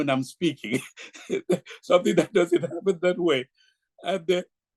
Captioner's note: laughs